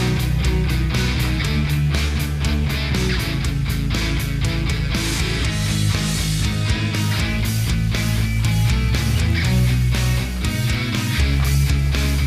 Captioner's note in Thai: ปรบมือ